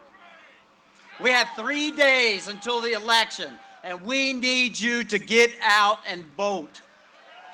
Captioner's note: cheering and applause